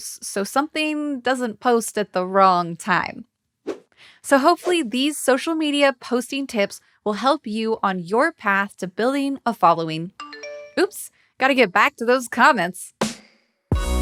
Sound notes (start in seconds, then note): 10.2 phone chiming